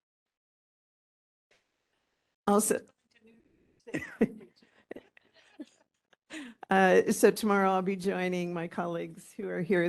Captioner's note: laughing in background